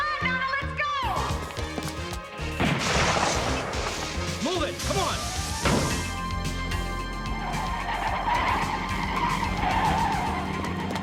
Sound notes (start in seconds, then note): 2.6 gun firing; 7.9 tires squealing